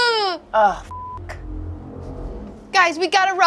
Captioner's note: beep